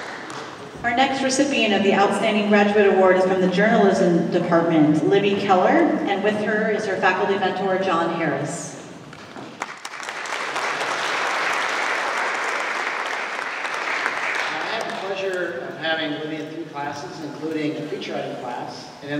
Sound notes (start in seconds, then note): 9.1 applause